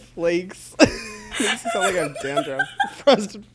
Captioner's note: laughs; both laugh